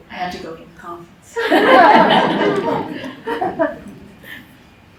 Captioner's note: laughter